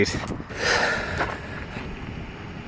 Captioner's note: deep breath